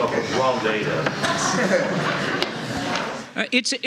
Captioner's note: laughter